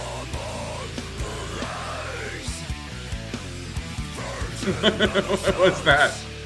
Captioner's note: groaning and screaming